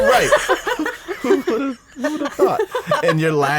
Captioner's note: woman laughing